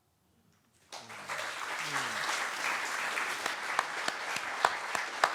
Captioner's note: applause